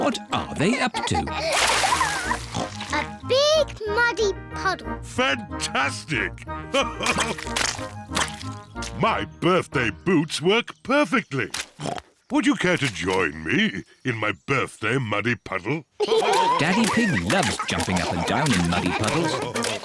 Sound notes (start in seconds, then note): 2.0 oinks; 6.5 laughs; 11.7 snorts